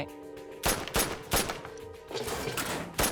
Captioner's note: gun shots